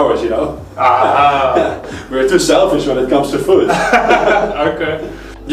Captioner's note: laugh